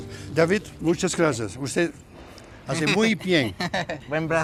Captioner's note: speaks spanish